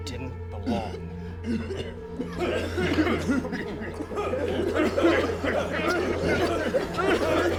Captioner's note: soft suspenseful music; patients coughing